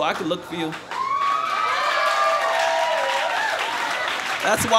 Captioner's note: applause and cheers